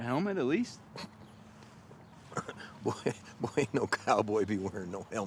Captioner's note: scoffs